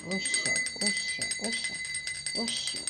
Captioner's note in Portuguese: sinos tocando